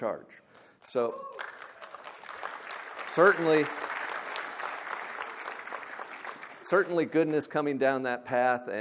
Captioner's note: applause